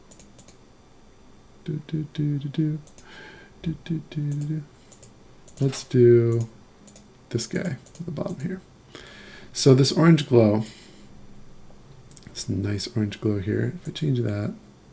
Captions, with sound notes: (humming) Let's do this guy on the bottom here. So this orange glow, this nice orange glow here, if I change that.